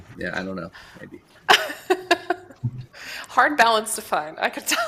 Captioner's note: laughs